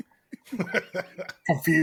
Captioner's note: laughter